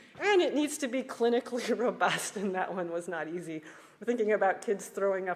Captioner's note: laughs